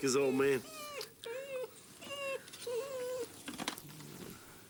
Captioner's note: dog whining